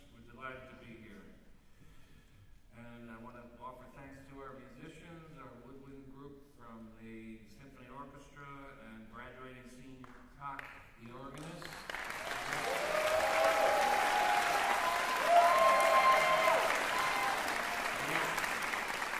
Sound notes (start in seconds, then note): 11.8 cheering, applause